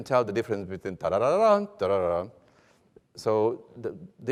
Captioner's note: hums melody